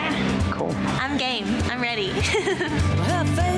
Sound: laughs

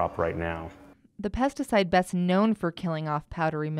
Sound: voiceover

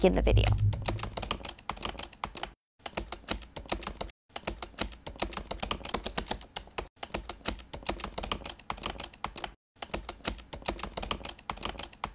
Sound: typing

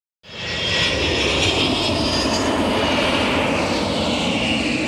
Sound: aircraft engine rumbling

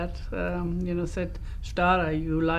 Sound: non-english

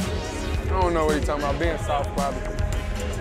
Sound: clapping

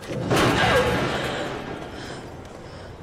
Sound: thud

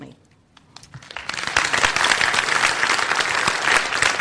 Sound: applause

